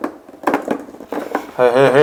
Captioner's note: rattling